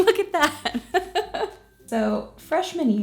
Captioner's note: laughing